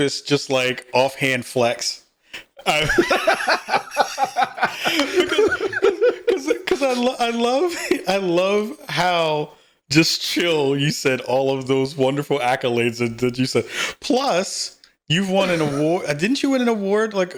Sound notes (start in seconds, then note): 2.6 both laughing